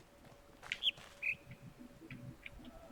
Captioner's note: bird chirps high-low